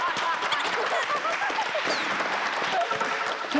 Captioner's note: laughing